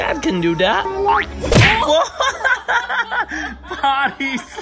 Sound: laughing

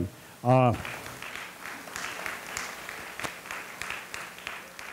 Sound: audience applauding

